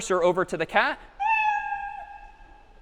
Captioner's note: meow